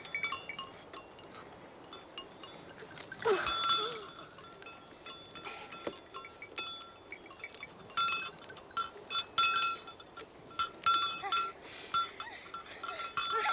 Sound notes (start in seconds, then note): 3.1 Klara grunting